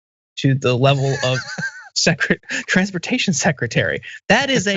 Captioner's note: laugh